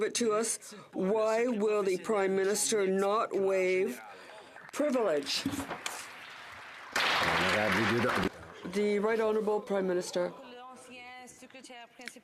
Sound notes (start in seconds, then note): 9.6 some Applause